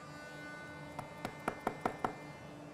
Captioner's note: soft pounding